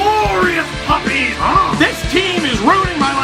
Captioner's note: dog growl with puck in mouth